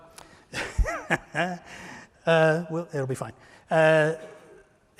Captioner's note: laughter